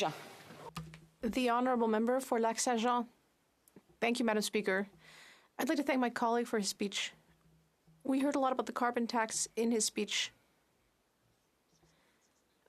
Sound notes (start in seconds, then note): 3.0 speaking French